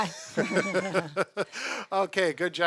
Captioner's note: both laughing